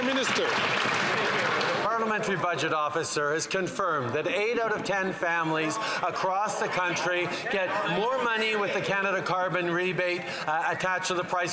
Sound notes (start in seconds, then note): 2.1 some Applause